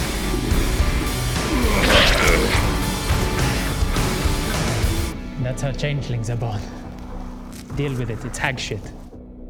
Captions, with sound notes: *even more traumatic birthing noises* That's how changelings are born. Deal with it. It's hag shit.